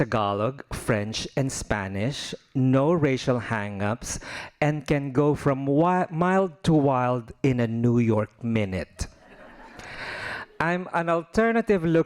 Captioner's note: laughing